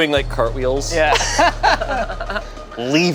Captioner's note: everyone laughs